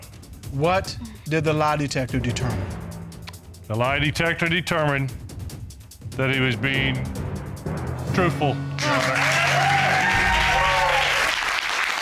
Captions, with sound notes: What did the lie detector determine? The lie detector determined that he was being... -truthful, Your Honor. -[audience cheering]